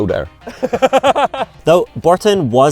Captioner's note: laughing